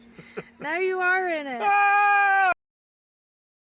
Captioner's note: screams